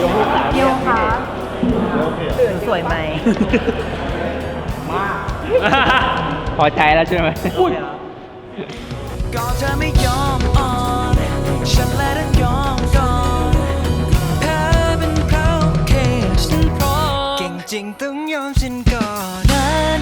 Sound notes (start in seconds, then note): 6.1 laughs; 8.8 surprised